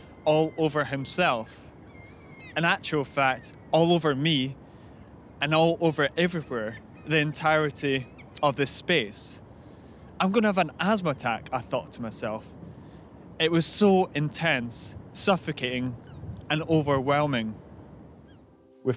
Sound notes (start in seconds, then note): none